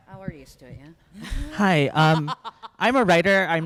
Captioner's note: laughs